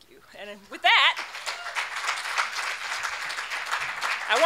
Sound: clapping

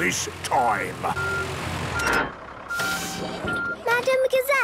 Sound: beeping, hydraulic noises

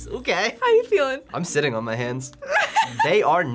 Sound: laughs

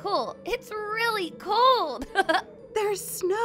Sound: laughs

